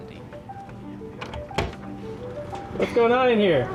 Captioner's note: door clacks